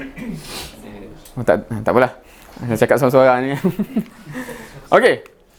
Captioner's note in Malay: ketawa